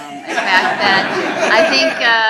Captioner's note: laughing